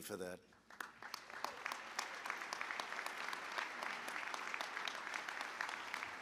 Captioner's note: applause